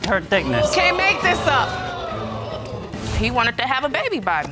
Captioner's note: audience exclaim